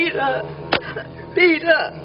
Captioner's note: smack